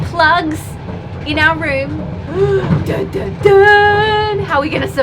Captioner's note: makes dramatic noises